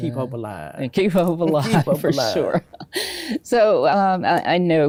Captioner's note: laughs